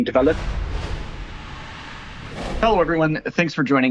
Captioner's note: logo swooshes